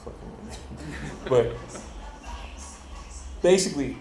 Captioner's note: audience laughing